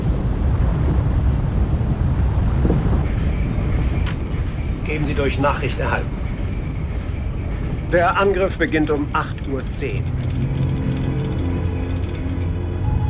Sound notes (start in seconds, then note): 4.9 speaking foreign language; 10.9 slow suspenseful music